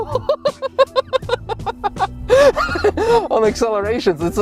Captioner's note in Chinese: 笑聲